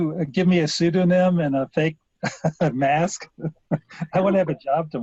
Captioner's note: chuckles